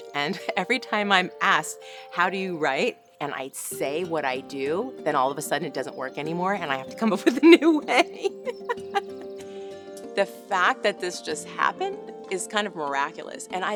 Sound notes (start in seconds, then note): 7.0 laughs